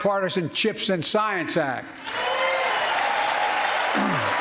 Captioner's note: applause